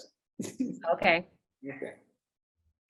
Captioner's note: chuckles